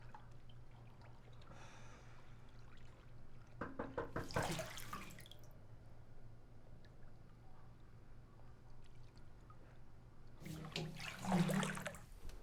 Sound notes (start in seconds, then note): 3.6 knocking